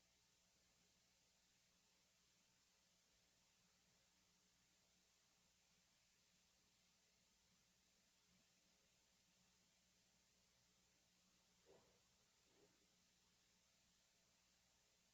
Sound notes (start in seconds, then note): none